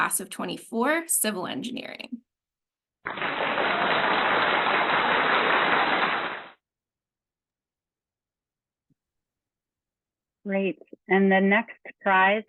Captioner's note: clapping